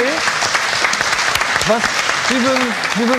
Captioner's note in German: Applaus